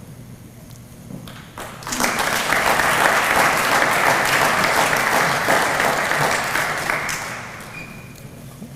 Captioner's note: applause